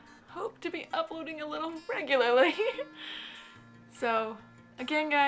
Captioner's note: guilty laugh